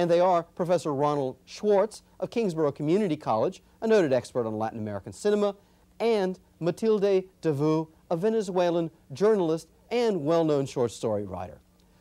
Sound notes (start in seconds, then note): none